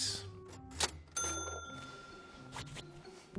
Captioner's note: ding